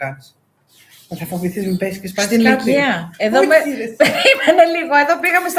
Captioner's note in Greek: γέλια